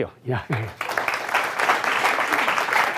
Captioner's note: applause